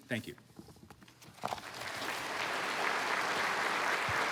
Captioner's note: applause